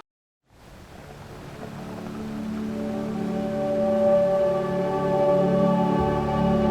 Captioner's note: waves crashing; ethereal music